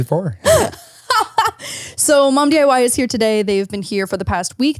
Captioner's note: laughs